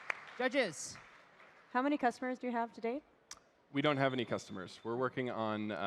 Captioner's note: applause